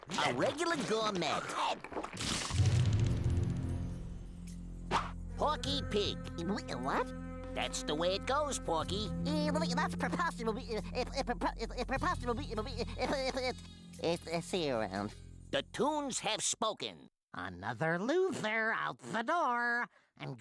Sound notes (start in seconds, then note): 6.4 stutters; 9.4 stuttering